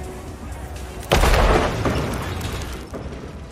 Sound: explosion

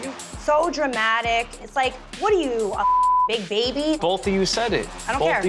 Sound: beep

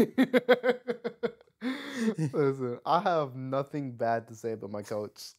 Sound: laughing

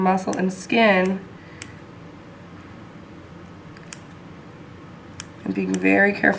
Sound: clipping sounds

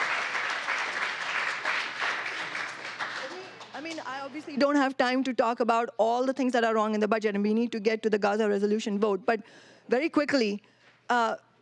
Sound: applause

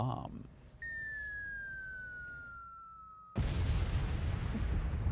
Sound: sound bomb explodeS

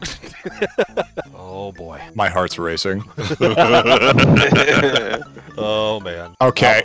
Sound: group laughter

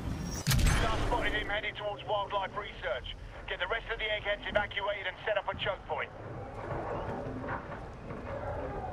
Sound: radio

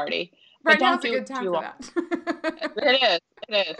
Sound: laughing

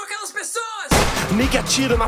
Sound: gun fire noise

